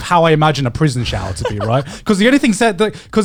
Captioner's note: chuckling